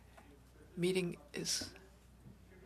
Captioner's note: speaking French